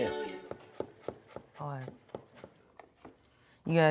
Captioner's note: knife thumping